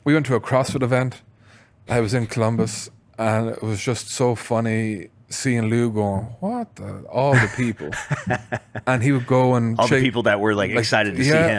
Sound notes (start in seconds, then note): 7.3 laughs